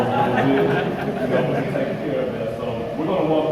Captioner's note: crowd laughter